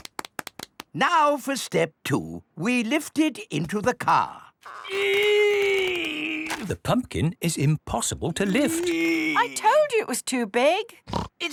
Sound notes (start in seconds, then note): 4.8 straining